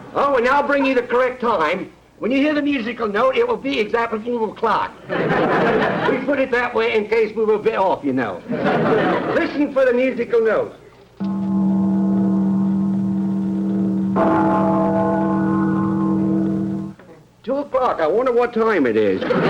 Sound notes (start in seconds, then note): 11.1 bell ringing twice; 19.2 audience laughter